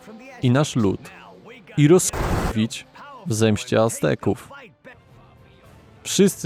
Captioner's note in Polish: fire